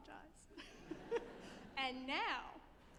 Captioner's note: all chuckling